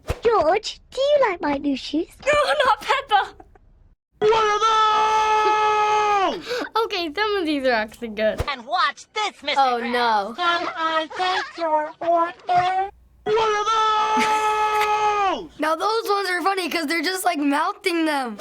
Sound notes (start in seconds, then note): 10.6 boots squeaking; 14.1 chuckles